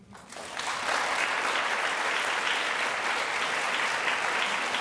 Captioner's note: audience applauding